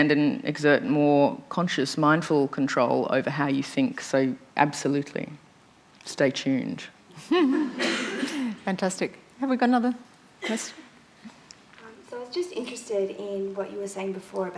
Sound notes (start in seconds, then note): 7.2 laughter